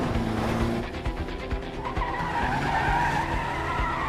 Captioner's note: tires screeching